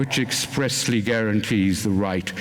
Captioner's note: none